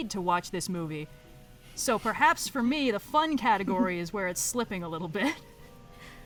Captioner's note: laughs